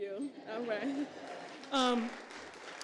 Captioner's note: applause